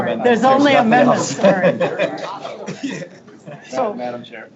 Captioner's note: board members laughing